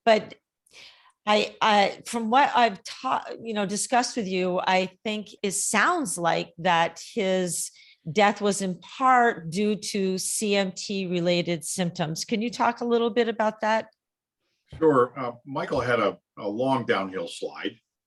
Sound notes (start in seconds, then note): none